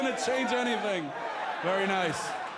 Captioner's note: fans chanting